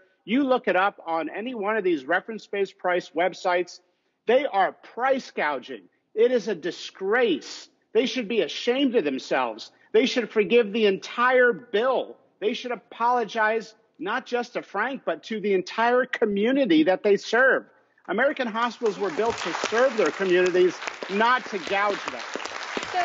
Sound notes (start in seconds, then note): 18.7 audience applauds